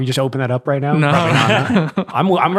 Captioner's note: laughing